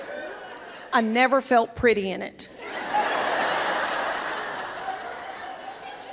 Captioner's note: audience laughs